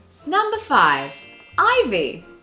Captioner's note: magical chiming